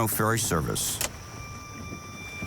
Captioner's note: switch clicking